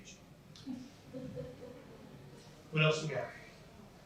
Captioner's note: laughter